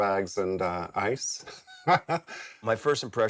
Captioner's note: laughs